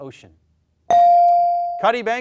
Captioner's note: bell dings